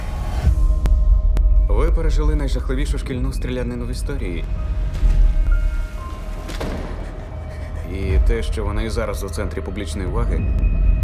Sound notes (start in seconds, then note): 0.2 tense music playing; 6.5 door closes; 6.6 panting